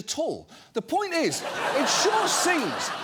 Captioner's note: audience laughing